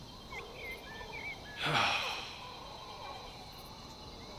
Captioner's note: sighing